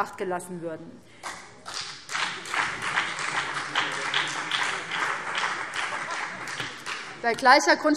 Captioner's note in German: Beifall BÜNDNIS 90/DIE GRÜNEN und vereinzelt CDU